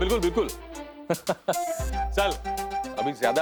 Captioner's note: laughing